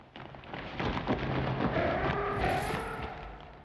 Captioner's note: fluttering; grunting